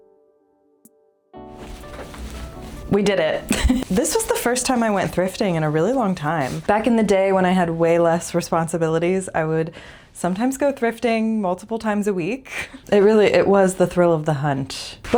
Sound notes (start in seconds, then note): 3.4 laugh